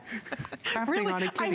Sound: laughter

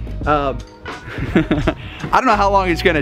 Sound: chuckling

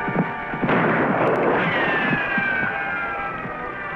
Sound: gunshots

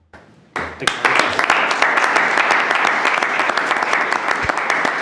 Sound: all clapping

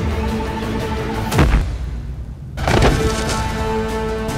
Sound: banging

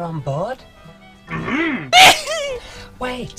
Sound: eager grumble; fearful sneeze

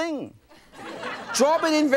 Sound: laughing

